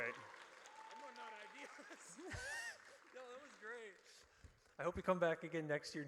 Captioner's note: applause